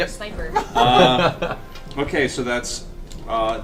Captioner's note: all laugh